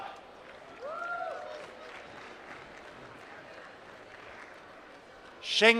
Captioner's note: applause